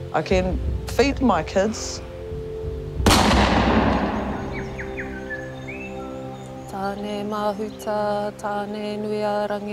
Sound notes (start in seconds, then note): 3.0 gun shot